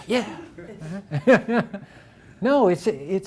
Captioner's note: everyone laughs